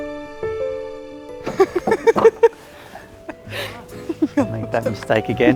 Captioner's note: laughing